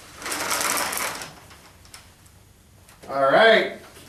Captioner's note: walker scratching floor